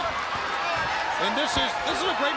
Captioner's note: crowd cheering